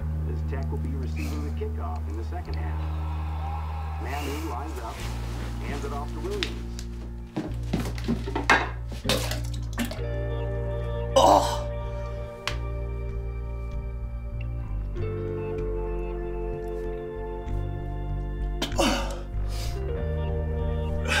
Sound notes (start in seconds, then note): 8.8 Drew coughing; 11.1 Drew groans; 13.6 dramatic instrumental rock music; 18.6 Drew groans